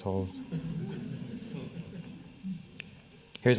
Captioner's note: laughing